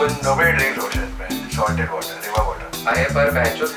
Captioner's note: people drink